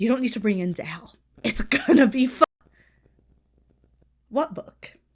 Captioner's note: audio cuts out